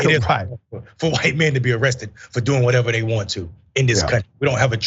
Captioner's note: laugh